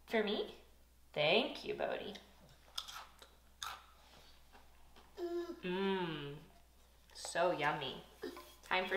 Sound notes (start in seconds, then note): 5.2 both sigh